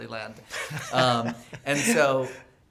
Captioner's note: laughing